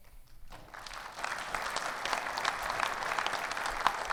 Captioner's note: audience clapping